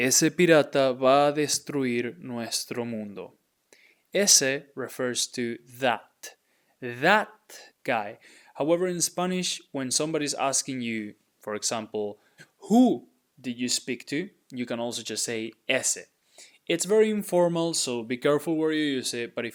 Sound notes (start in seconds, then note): 0.1 speaking in Spanish; 15.6 speaking in Spanish